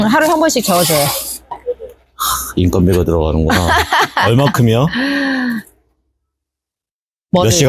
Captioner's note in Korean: 하하하하